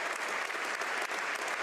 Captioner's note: applause; cheers